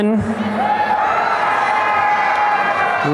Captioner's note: applause and cheering